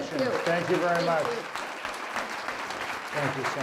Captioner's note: applause